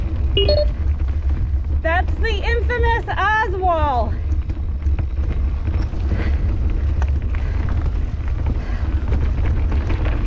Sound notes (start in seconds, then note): 0.3 loud beeping; 5.9 heavy breathing